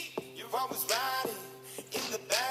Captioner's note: none